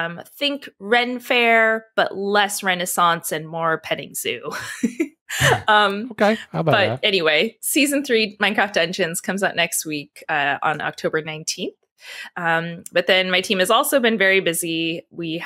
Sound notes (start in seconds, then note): 5.3 laughs